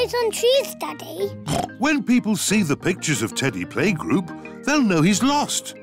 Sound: oinks

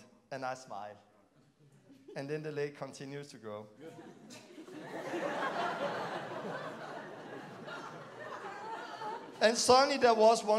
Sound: laughing

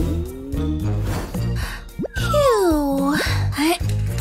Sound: snoring

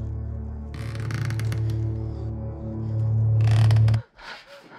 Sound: creaking sound

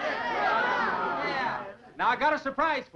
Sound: all chattering

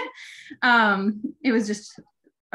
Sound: chuckling

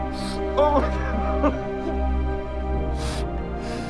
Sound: sobbing

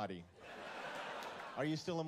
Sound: laughter

